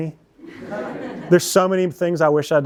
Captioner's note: laughter